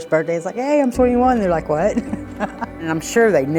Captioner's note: chuckles